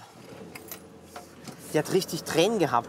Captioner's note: Motor startet